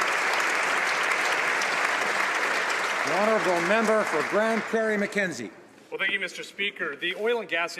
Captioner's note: applause